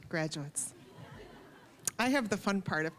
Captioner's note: scattered laughing